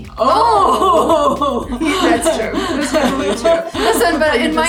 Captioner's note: exclaiming